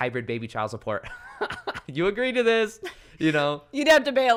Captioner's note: laughs